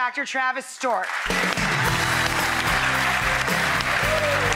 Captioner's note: audience applauds; lively rock music